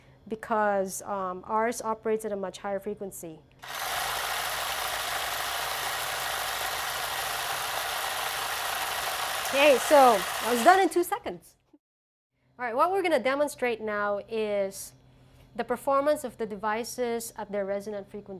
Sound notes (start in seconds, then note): 3.8 mechanical Noises